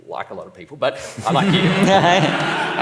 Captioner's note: laughs